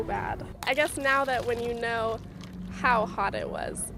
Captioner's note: coffee pouring